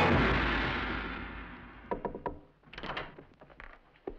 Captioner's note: knocking on door